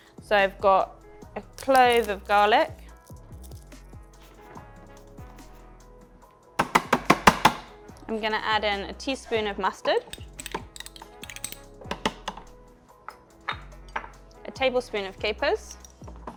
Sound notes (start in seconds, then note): 3.6 gentle music; 6.6 grater banging; 9.8 spoon clanking